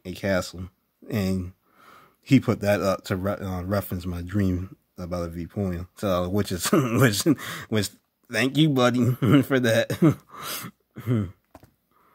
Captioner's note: chuckling